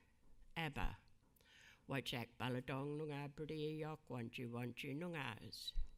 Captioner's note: speaking in a foreign language